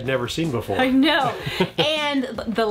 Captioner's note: chuckles